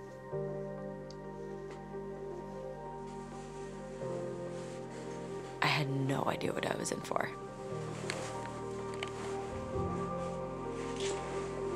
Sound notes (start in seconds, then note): 0.1 uptempo whimsical music; 3.2 fabric shuffling; 7.0 fabric shuffling